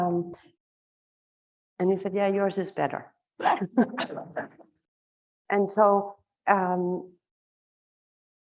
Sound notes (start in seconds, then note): 3.4 laughing